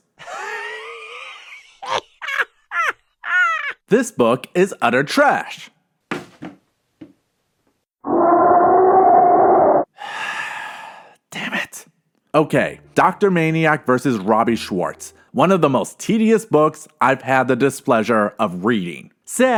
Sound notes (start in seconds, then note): 0.3 laughing; 8.1 creepy moaning; 9.9 deep breath